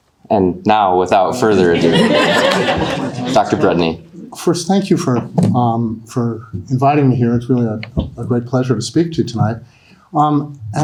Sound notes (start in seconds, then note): 1.2 audience laughing